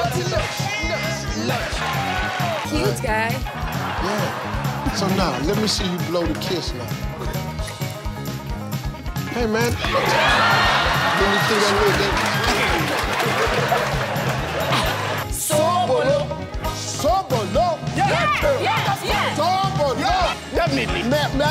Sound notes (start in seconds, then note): 0.1 audience laughing; 7.0 kiss smacking; 9.7 audience laughing and clapping; 15.4 team speaking foreign language; 16.9 speaking foreign language; 19.5 speaking foreign language